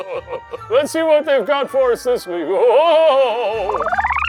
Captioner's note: laughing; laughing; scene beeping